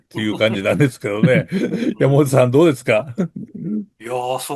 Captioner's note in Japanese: 咳払い